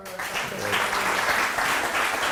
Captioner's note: applause